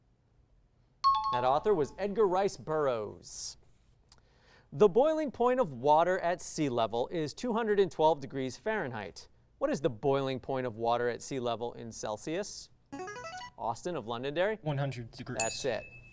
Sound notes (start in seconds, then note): 1.0 high-pitched tones; 12.9 signaling device tone; 15.4 ding